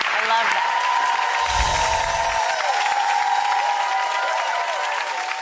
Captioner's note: audience clapping, cheering